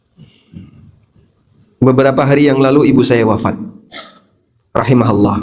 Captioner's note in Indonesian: berdehem